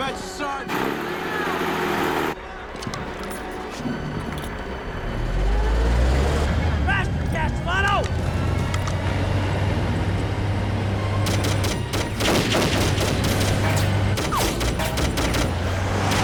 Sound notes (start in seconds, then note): 0.6 jeep revving; 6.1 tank rumbling; 11.2 gunfire clattering